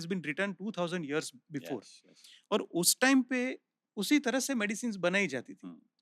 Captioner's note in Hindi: नाक से की जाने वाली आवाज़